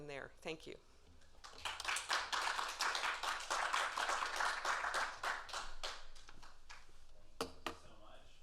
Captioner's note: applause